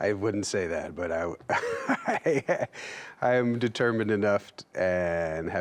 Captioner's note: laughs